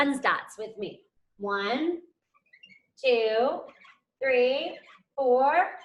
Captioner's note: marker squeaks